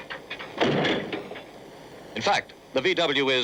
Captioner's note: Beetle thudding